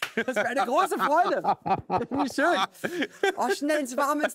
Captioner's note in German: Lachen